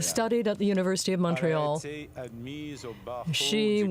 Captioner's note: speaking French